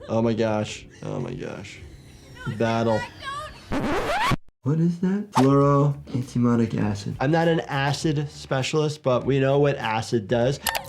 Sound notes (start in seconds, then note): 3.6 record scratch